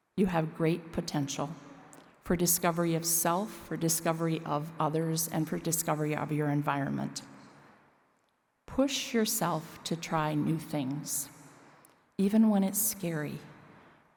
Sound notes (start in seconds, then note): none